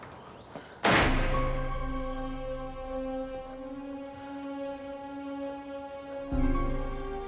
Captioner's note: door slams; solemn music